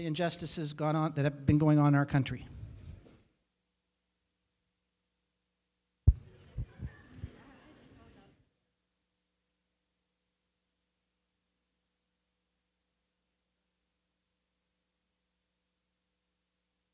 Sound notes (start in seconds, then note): 4.3 silence